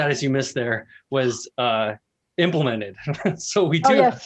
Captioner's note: laughs